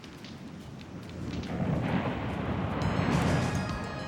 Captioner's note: waves crashing; dramatic music